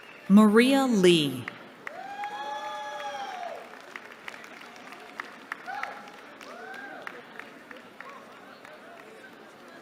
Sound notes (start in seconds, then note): 1.5 cheering